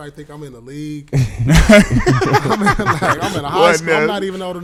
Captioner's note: laughing